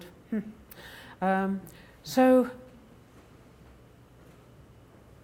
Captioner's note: none